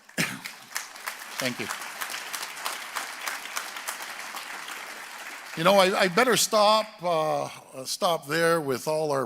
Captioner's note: applause